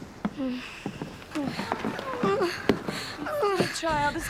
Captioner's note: whimper; moaning and heavy breathing